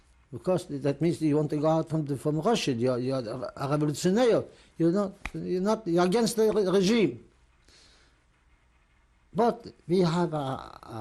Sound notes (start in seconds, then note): 3.9 non-english